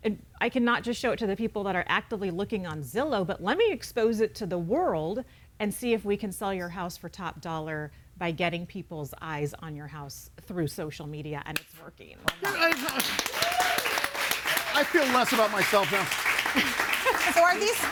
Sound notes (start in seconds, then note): 12.3 audience cheers and applauds; 16.1 audience applauds; 16.5 laughs